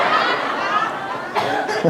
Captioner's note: laughter